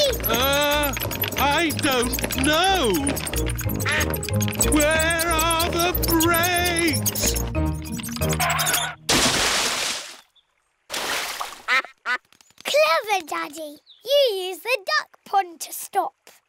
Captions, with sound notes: Er... I don't know. (QUACKING) Where are the brakes? (QUACKS) Clever Daddy. You used the duck pond to stop.